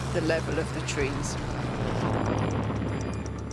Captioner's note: plane engine buzzing